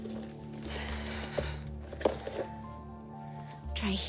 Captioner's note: sighs